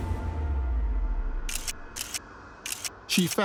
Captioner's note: camera clicks